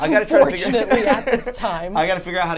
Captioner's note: laughs